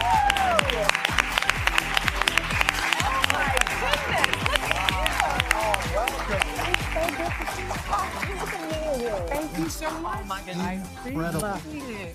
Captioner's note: applause